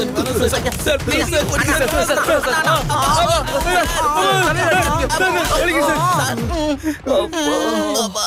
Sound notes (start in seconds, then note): 0.9 indistinct shouting